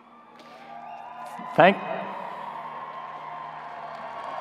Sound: audience cheering

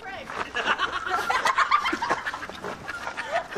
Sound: laughter

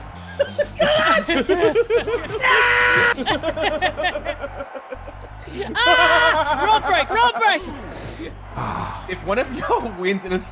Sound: laugh

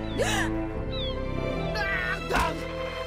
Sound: gasps

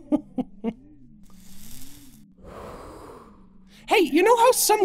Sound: Goofball inhales and exhales

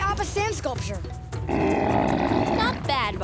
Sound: grunting

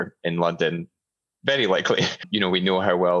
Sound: chuckles

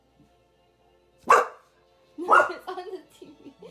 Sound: bark

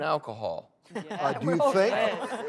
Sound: laughter

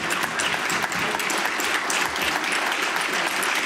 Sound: applause

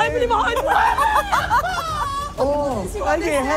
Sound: screaming

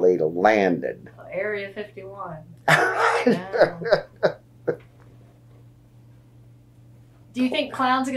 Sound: laughter

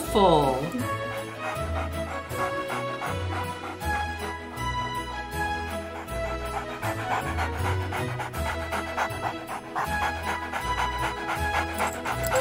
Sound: dog panting

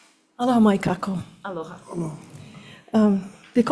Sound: speaks Hawaiian

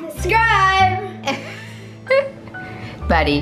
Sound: laughs

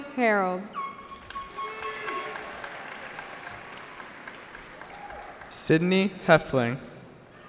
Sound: cheering

